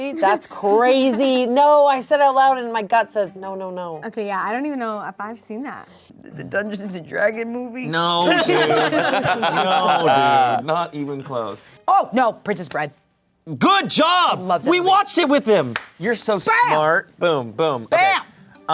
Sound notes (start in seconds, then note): 8.2 everyone laughs